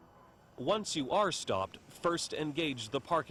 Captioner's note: voiceover